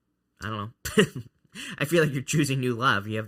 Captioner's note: laughs